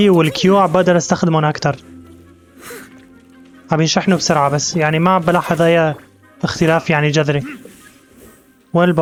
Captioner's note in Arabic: زقزقة الطيور